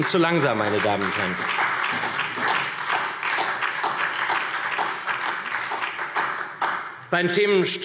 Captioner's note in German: Beifall SPD